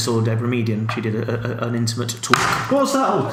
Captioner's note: pencils drops loudly